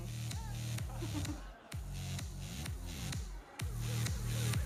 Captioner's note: audience laughs; giggles; electronic dance music